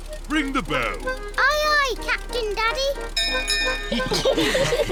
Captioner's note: bell rings; all laugh